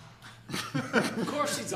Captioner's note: people laughing